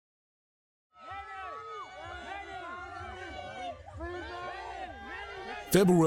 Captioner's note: crowd